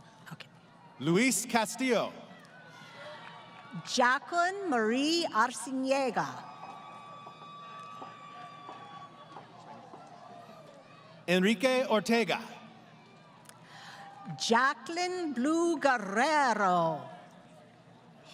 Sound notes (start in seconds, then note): 0.0 crowd Cheering; 5.6 crowd Cheering